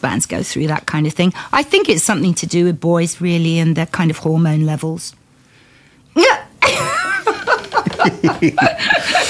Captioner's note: laughter